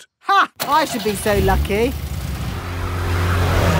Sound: car engine starts

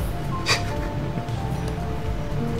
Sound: snickers

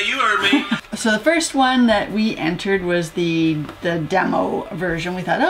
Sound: laugh

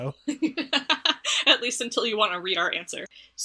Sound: laughs

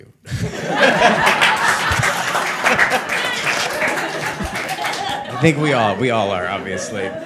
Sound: all laughing; all applauding

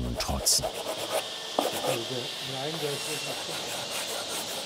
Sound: scraping noises, quiet conversations

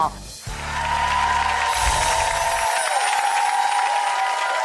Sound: audience applauding

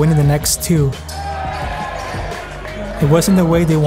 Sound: cheering

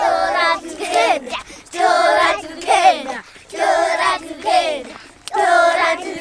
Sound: chanting "fly the airplane" in shona

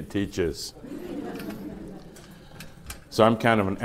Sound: laughter

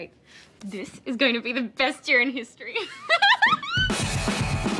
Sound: chuckles

